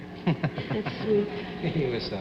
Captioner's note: laughs